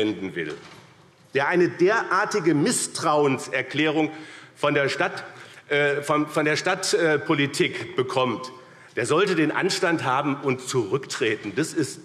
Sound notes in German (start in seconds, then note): none